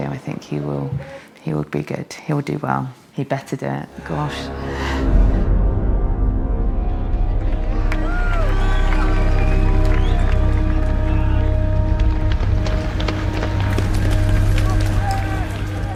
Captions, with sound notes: I think he will be good. He'll do well. He better do it, gosh. (dramatic music) (crowd cheers) (dramatic music)